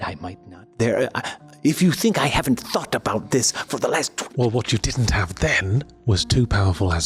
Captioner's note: none